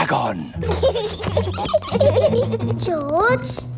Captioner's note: both giggling